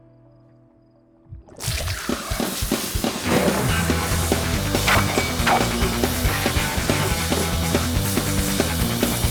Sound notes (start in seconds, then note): 1.5 milk sloshing; 3.0 lively music